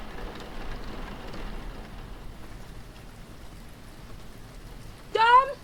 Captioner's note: rain